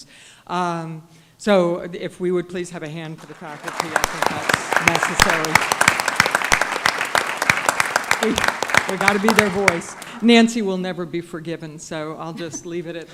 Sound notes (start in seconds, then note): 3.2 applause